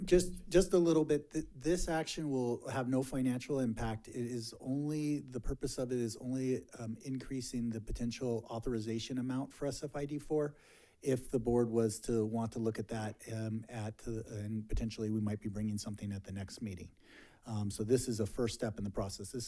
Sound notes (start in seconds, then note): none